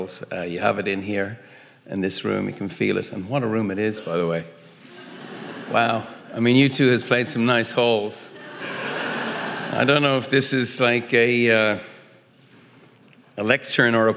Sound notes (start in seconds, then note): 4.7 audience laughing